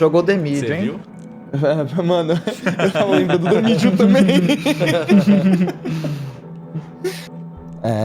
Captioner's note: laughs